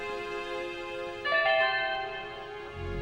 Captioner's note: chime